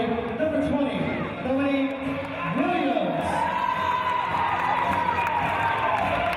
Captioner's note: team cheers